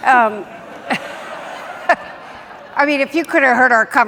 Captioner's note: audience laughing